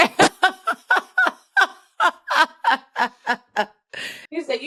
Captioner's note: laughs